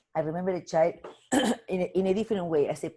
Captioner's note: coughing